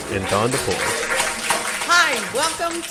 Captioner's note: audience clapping